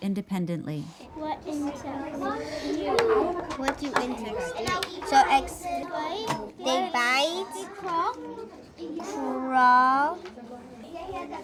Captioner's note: sound of many children talking